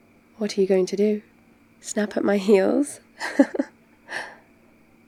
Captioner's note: laughs